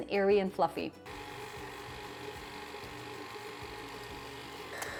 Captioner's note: mixer whirring